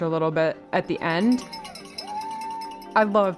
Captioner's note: crowd cheering